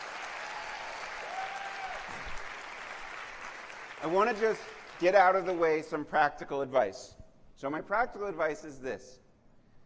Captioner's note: applause